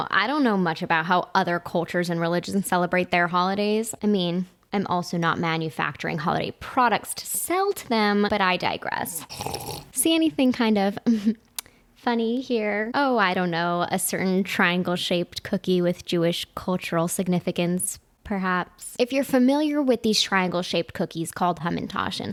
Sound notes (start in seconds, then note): 9.2 slurping